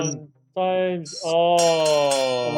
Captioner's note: bell ringing